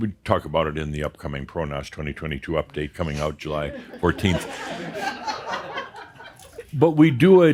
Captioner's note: some chuckles